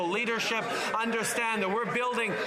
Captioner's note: some Applause